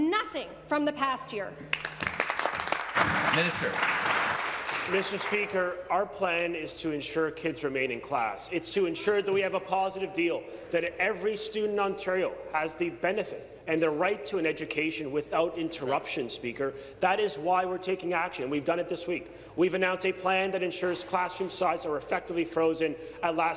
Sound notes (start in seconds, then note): 5.1 applause